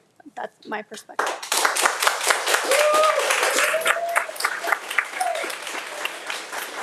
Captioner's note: audience applauding and cheering